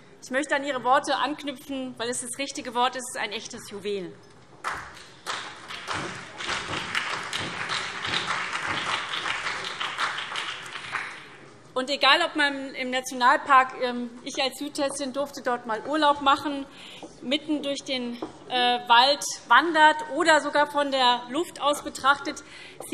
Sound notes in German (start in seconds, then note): 4.6 Beifall SPD, CDU und BÜNDNIS 90/DIE GRÜNEN